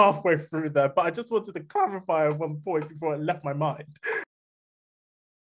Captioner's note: laughs